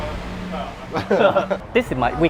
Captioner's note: laugh